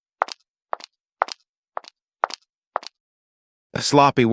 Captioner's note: footsteps